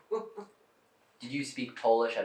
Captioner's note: laughing